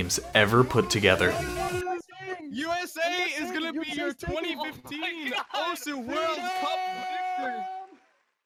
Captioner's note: cheering from shoutcasters